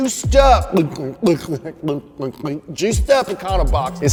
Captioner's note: gulping